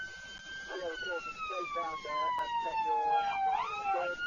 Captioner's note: police car siren